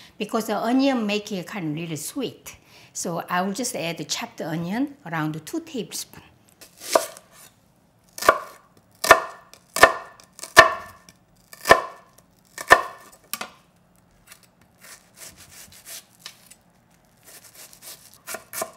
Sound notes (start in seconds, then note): 8.3 onion chopping